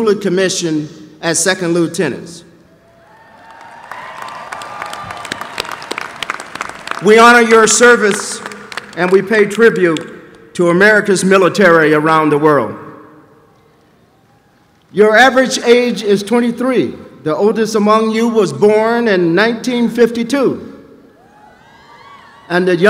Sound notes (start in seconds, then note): 3.1 applause